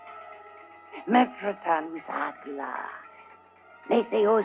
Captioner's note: speaking unknown language